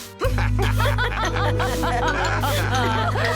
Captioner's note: all laughing